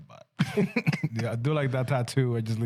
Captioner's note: laughing